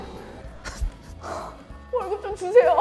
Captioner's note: car